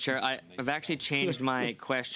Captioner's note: speaking French